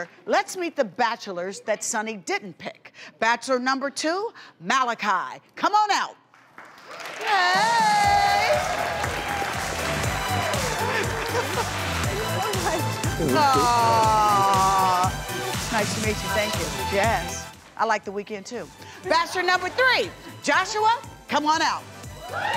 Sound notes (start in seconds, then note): 7.8 crowd clapping; 7.8 upbeat music